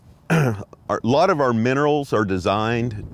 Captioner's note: clears throat